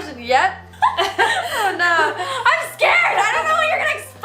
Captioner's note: laughs